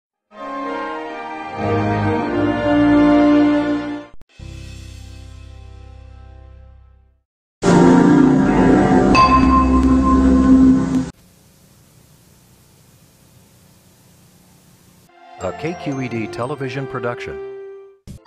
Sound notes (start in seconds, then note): 0.4 anticipating classical music plays; 4.2 patriotic music plays; 11.2 VHS static